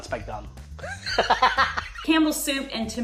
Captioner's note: laughs